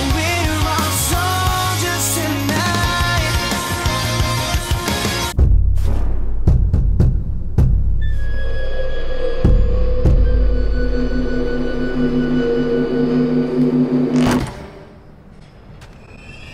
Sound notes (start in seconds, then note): 6.0 ominous knocking on the door